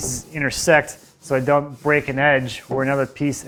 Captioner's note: brush swishing